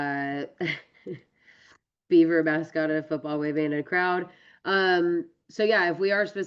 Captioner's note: laughs